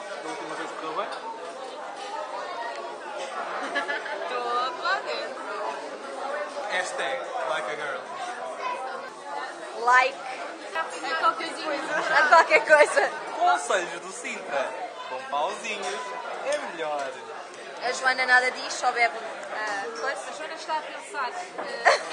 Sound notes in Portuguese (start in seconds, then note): 3.4 Risos